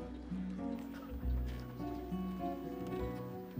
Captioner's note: crowd murmuring